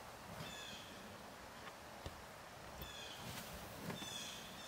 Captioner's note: blue jay calling